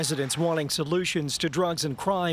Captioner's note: applause